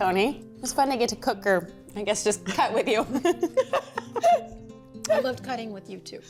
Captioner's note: laughs